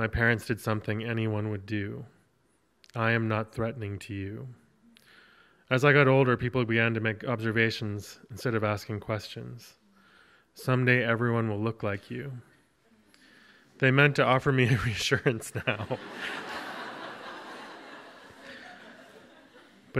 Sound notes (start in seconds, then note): 15.4 audience laughs; 15.4 laughing